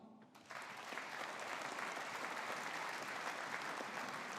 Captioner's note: audience applauding